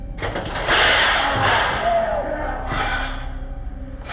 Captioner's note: banging